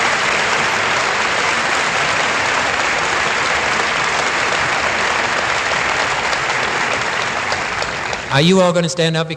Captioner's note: applause